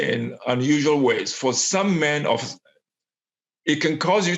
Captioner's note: microphone cuts out